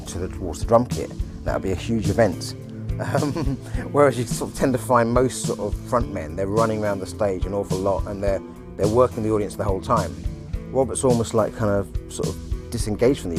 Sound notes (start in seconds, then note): 5.0 chuckling